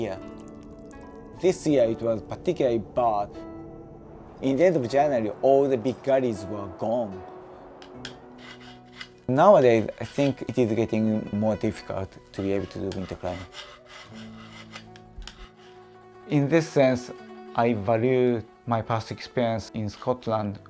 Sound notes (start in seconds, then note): 0.0 ice drips; 7.9 file scraping